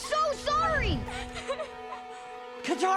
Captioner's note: crying